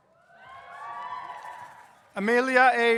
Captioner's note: audience cheers